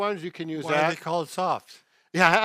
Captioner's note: chuckles